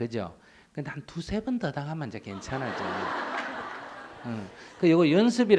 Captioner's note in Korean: 청중 웃음